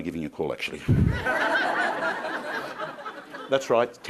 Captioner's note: crowd laughing